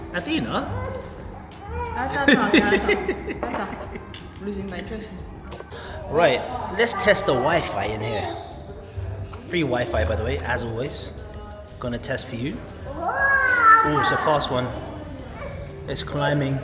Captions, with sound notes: Athena? (laughing) - Losing my traces. - Right, let's test the wifi in here. Free wifi by the way, as always. Gonna test for you. Oh, it's a fast one. It's climbing.